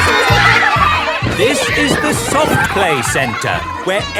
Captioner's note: loudly over shouting